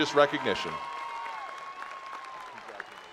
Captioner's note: attendees applauding